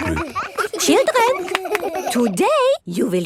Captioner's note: all laughing